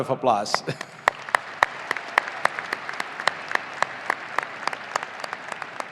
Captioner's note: audience applauding